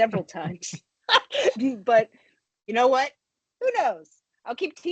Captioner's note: chuckles